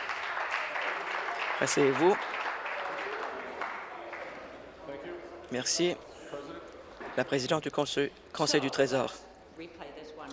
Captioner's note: applause